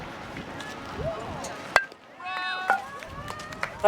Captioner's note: bat pings